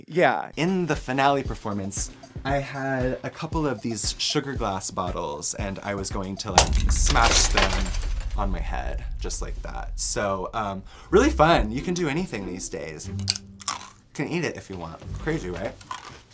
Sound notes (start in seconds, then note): 6.5 glass breaks; 13.6 crunches